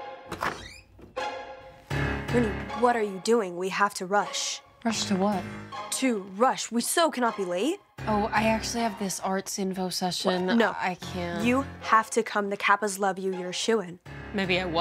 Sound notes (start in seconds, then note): 0.2 door squeaking